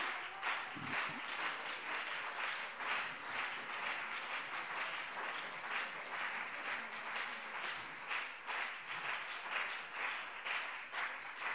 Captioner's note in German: Beifall BÜNDNIS 90/DIE GRÜNEN und CDU